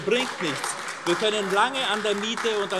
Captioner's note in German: Beifall AfD